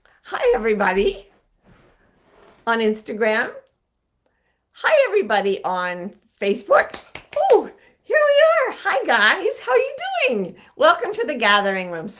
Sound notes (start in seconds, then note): 6.9 clapping